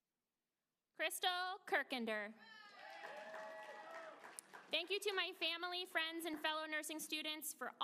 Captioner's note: applause